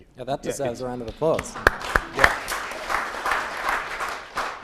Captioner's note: applause